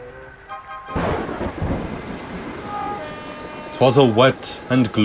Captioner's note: thunder roars